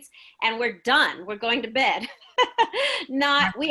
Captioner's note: laughs